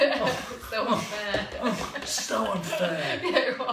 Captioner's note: laughter; sighing